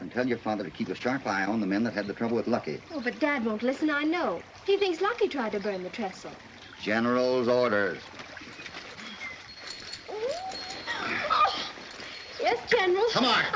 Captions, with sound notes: tell your father to keep a sharp eye on the men that had the trouble with Lucky. Dad won't listen, he thinks Lucky tried to burn the trestle. General's orders. [ ELLEN MOANS ] - Yes, General. - Come on.